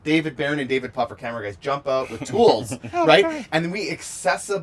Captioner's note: laughs